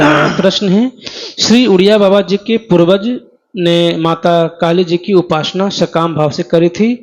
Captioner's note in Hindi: नाक से की जाने वाली आवाज़